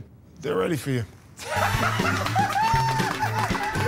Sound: laughter

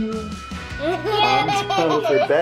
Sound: laughing

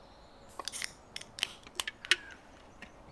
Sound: beer cans cracking open

